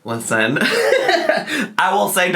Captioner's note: laughing